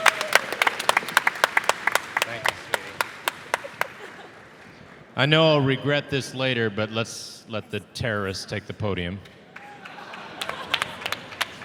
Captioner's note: applause